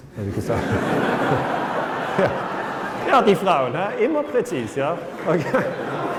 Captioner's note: laughter